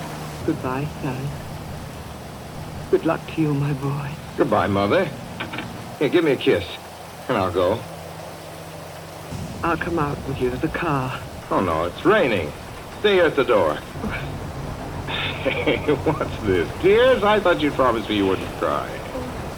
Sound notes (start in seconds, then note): 0.1 apprehensive; 14.2 stifles a sob; 14.9 laughs